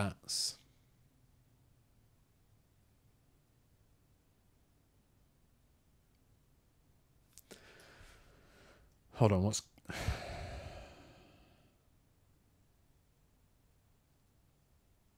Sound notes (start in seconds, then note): 9.9 sighs